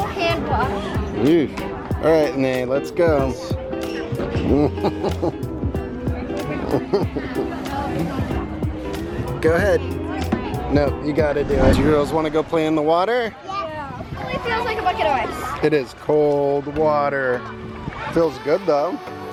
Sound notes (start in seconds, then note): 4.5 laughing amusingly